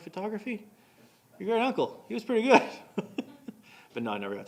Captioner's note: laughing